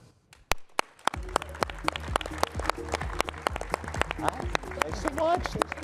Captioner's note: guests and audience applaud